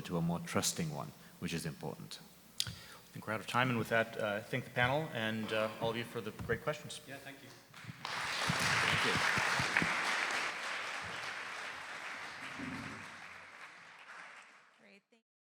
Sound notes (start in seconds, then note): 7.7 audience applauding